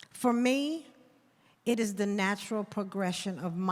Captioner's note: none